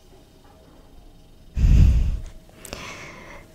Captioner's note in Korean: 냉장고 소리